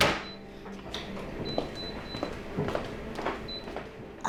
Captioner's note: machine beeping